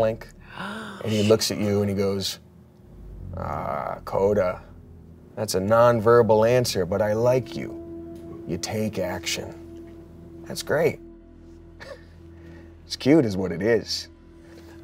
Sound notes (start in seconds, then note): none